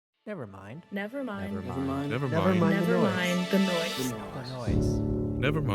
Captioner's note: multiple voices speaking